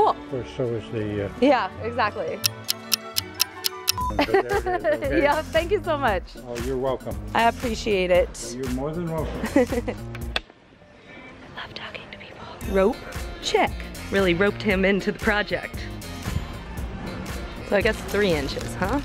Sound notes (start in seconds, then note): 2.4 clock ticking; 4.2 uncomfortable laugh